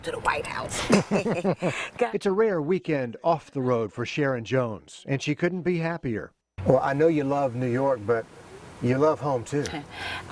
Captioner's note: laughter